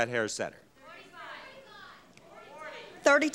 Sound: crowd screaming

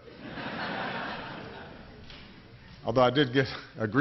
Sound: laughter

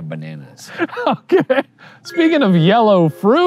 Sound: laughing

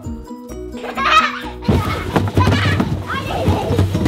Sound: child laughs

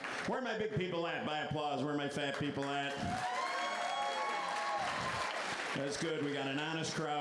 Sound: applause

